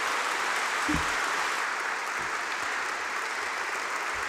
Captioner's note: applause